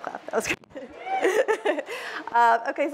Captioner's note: laughs